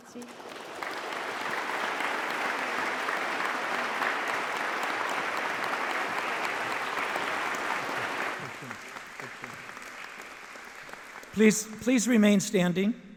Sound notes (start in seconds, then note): 1.5 speaking in foreign language; 3.9 audience applauding